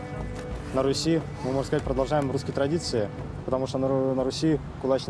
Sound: speaking in foreign language

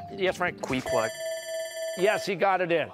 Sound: bell ringing

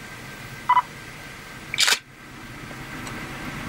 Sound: camera shutter

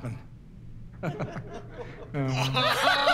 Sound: light laughter; laughter

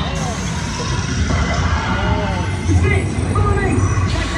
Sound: dragon breathing fire; spider screeching

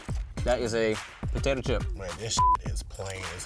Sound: beep

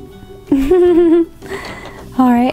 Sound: giggles

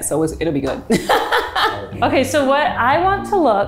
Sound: laughs

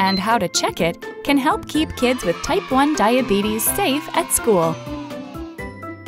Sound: children cheering

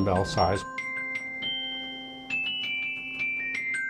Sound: bells

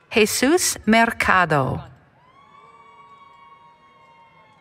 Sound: applause, Cheering

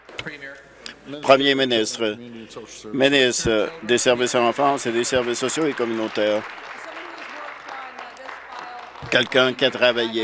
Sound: some Applause

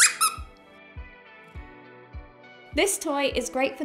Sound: toy squeaks

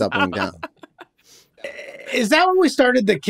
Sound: laughs

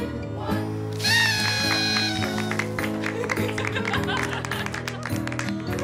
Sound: party horn, laughter, applause

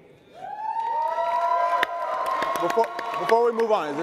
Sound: audience cheering

